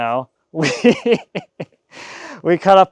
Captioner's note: laughing